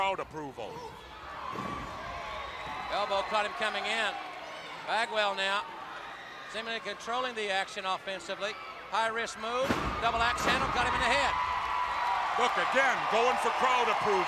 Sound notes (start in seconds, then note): 11.7 crowd cheering